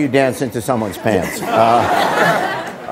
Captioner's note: audience laughing